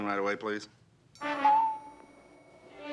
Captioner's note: elevator bell dings